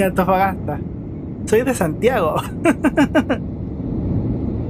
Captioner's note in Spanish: risas